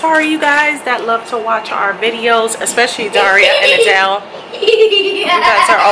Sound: child Laughing

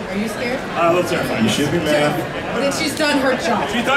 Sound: audience chattering

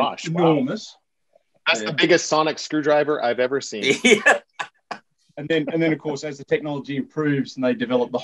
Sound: laughter

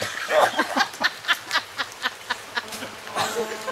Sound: mean laughing

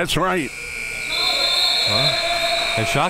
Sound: buzzer

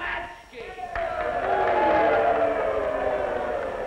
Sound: cheering

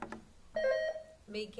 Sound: buzzer sounding

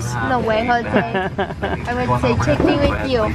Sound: laughs

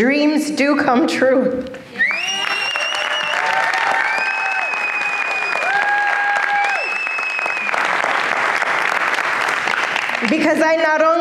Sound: applause and cheers

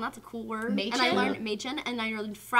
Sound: german

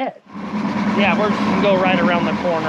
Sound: boat engine running

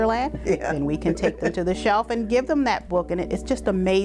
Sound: laughs

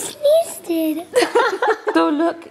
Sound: laughter

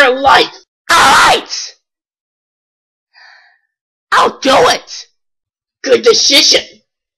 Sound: sigh

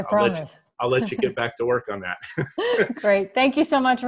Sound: laughs

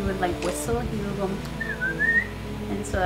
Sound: whistles

